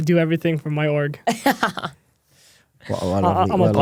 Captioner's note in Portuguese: risos